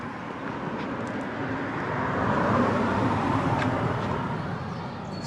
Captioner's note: car whirring